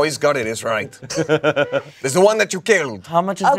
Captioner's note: laughs